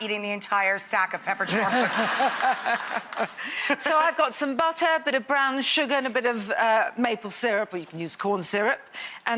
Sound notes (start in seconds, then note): 1.5 laughs